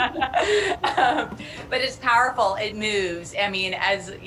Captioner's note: laughter